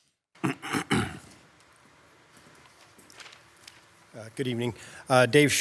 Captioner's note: clearing throat